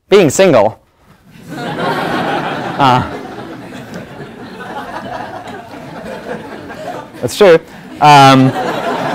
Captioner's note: laugh; laugh